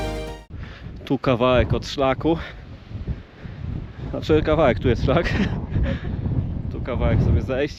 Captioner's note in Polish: śmiech